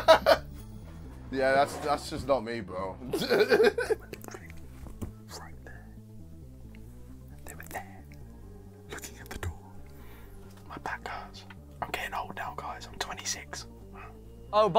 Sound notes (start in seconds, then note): 0.3 laughs; 3.9 whispering; 10.9 whispering